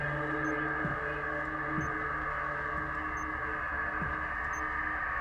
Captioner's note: security system beeping